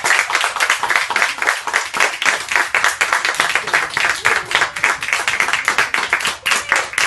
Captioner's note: applause